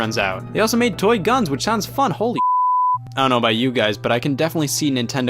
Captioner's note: beep